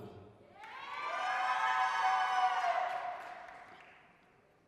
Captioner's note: applause, cheering